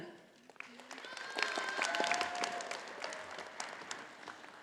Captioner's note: audience applauding